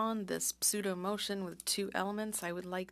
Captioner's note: speaking French